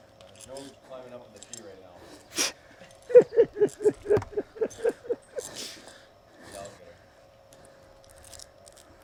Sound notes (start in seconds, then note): 3.1 men laughing